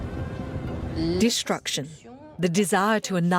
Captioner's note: voiceover